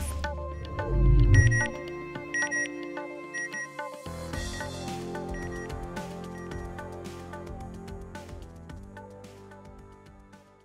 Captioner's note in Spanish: beep beep, beep beep; music fades out